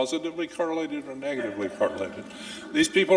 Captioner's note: audience laughing